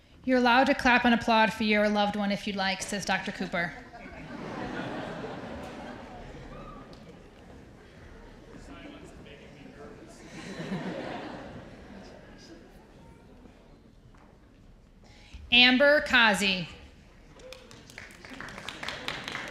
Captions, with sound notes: You're allowed to clap and applaud for your loved one if you like, says Dr. Cooper. (audience laughs) - The silence is making me nervous. (audience laughs) - Amber Kazi.